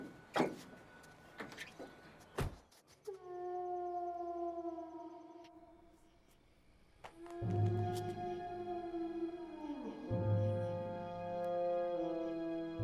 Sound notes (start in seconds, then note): 2.6 truck door closes; 3.1 wolf howling; 7.5 gripping music